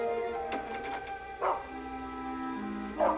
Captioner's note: mr. twixel barking